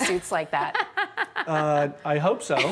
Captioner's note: laughing